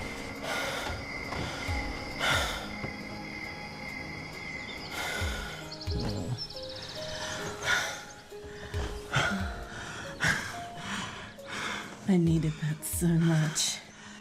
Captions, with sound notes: (crickets chirping) (birds chirping) I needed that so much.